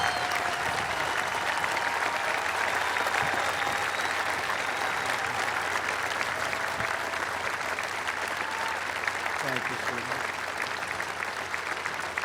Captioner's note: applause